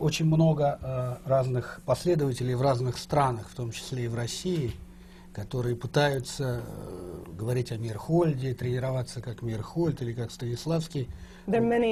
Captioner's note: foreign language not transcribed